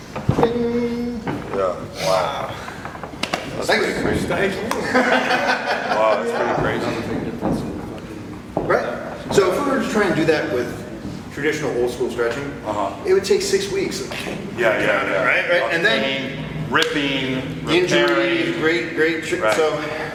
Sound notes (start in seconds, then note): 4.6 laughs